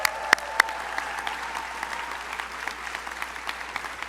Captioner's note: crowd applauding